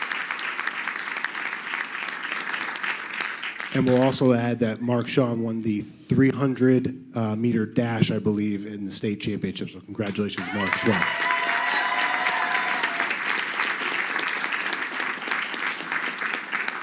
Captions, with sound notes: And we'll also add that Mark Sean won the 300 meter dash, I believe in the state championships. So congratulations north 12. (crowd cheering)